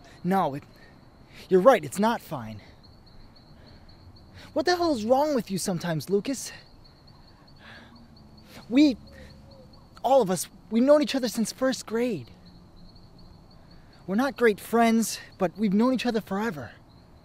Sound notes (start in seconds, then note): 6.6 bird hooting